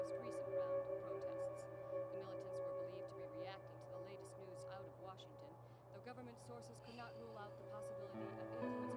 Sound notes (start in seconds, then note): 1.0 television in the background